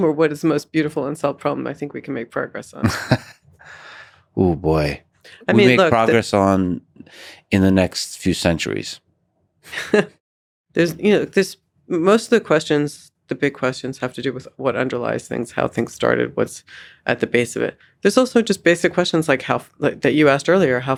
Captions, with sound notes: or what is the most beautiful unsolved problem I think we can make progress on? (Lex laughs) - Oh, boy. We make progress on in the next few centuries. (chuckles) - Most of the questions, the big questions have to do with what underlies things, how things started, what's at the base of it. There's also just basic questions that you asked earlier,